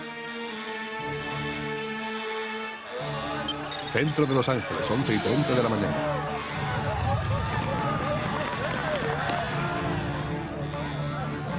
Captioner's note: cries and shouts